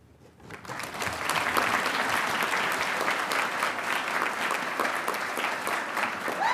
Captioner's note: audience cheering and applauding